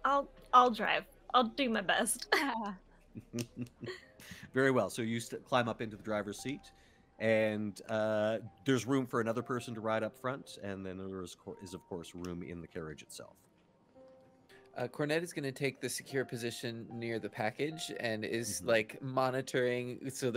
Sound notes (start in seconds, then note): 3.1 chuckles